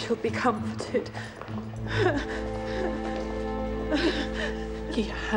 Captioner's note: crying